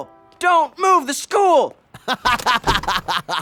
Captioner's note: laughing